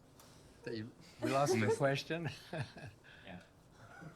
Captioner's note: chuckles